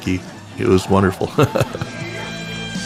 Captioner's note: laugh